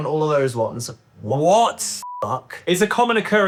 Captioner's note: beep